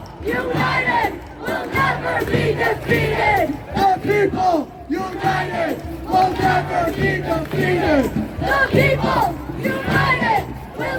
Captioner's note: chant